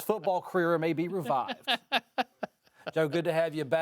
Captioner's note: panelists laughing